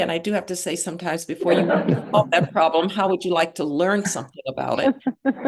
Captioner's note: laughter